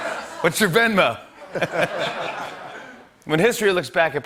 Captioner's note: laughter; laughter